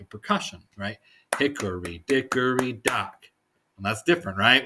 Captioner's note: clapping